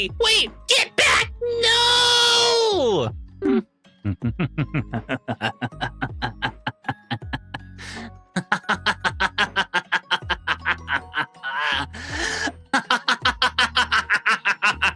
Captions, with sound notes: Wait, get back, no! (laughing)